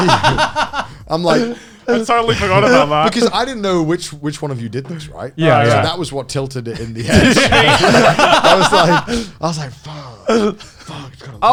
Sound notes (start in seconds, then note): 0.0 both laughing; 6.8 both laugh